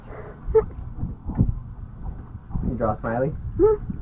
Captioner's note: laughs